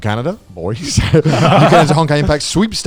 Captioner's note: laughs quickly